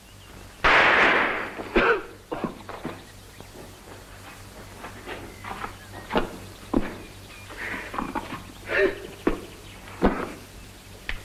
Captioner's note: shot. Sound of cough and steps